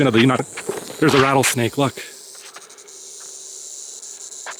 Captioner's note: snake rattles